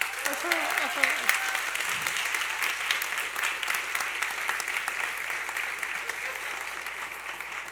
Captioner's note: applause